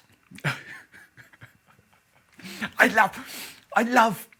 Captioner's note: laughing